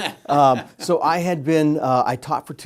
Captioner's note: laughs